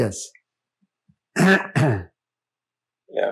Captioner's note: clears throat